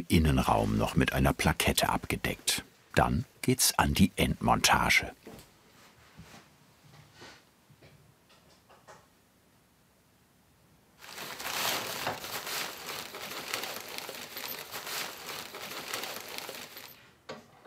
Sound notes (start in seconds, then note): 13.1 rustling